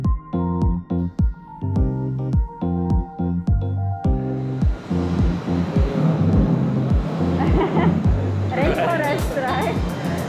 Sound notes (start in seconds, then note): 5.8 thunder noise